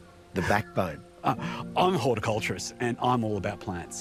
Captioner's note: laughs